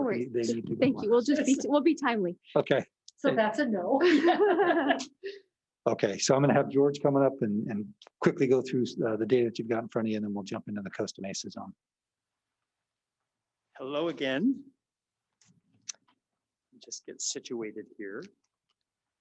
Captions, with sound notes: - No worries, thank you. We'll just be timely. So that's a no. (laughs) - Okay, I'm gonna have George coming up and quickly go through the data that you've got in front of you and then we'll jump into the Costa Mesa zone. - Hello, again. Just get situated here.